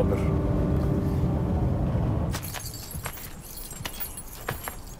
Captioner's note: keys jingling